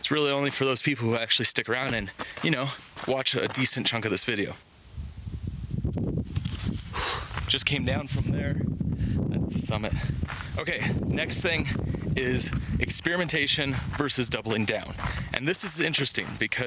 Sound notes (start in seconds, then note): 6.8 breathes out